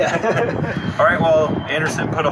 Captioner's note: laughter